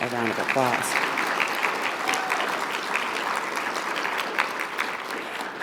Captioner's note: audience applauding